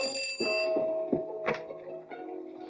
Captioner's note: doorbell rings; door opens